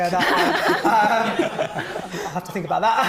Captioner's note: all laughing